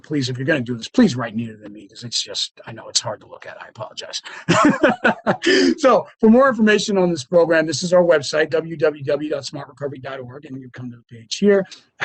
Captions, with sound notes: but please, if you're going to do this, please write neater than me, because I know it's hard to look at. I apologize. [LAUGHS] So for more information on this program, this is our website, www.smartrecovery.org, and we come to the page here.